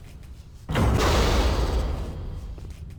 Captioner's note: loud explosion